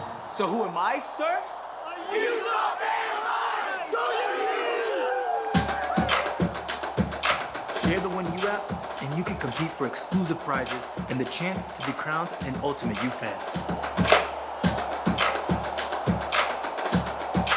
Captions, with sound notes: - So who am, sir? - A Utah fan am I! Go U! [CHEERING] [UPBEAT MUSIC] - Share the OneU app, and you can compete for exclusive prizes and the chance to be crowned an Ultimate U Fan.